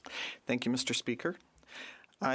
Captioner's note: speaking French